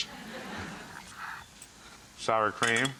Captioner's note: audience laughing